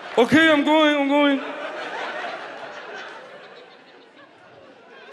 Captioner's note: audience laughs